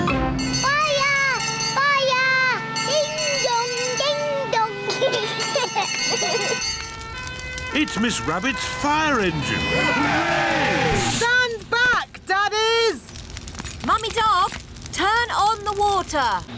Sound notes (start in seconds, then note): 2.6 bell rings; 4.8 children giggling; 7.0 siren blares; 8.8 all cheer